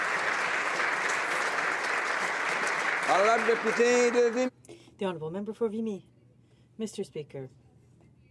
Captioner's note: applause